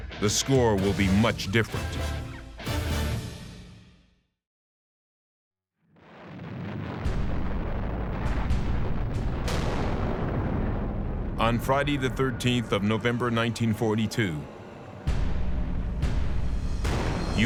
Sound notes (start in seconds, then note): 5.9 bombs exploding